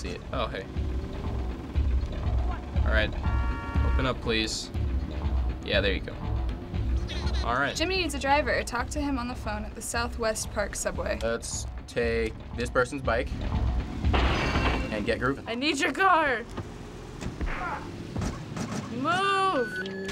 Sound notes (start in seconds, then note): 14.1 crashing; 17.4 punch lands, man groans